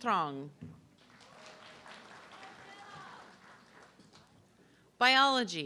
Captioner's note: audience clapping